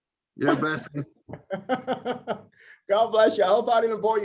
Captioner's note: laughter